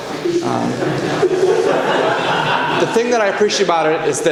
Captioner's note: congregation laughs